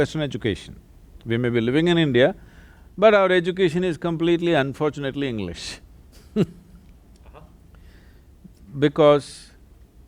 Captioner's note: laughs